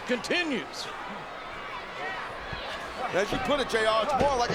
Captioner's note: audience chattering